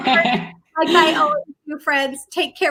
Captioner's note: laughter